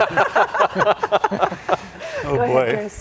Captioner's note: panelists laugh